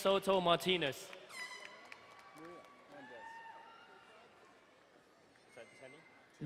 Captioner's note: crowd cheering and horn blowing